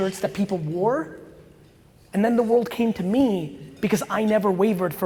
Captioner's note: none